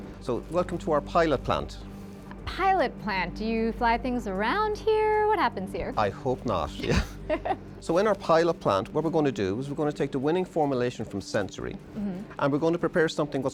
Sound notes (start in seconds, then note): 6.8 laughing